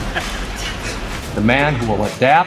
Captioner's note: chuckling